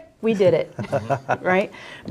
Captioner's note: laughing